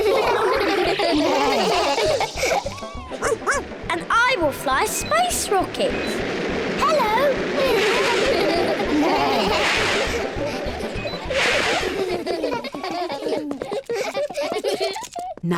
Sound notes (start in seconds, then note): 0.0 all laugh; 3.2 barks; 7.6 all laugh